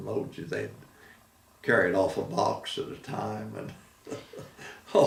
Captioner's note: laughing